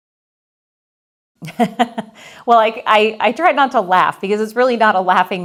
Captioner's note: laughs